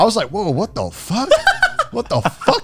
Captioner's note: laughs